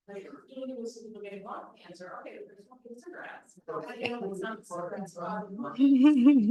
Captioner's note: person chattering indistinctly